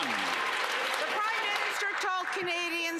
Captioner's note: some Applause